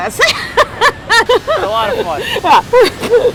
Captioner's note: laughs loudly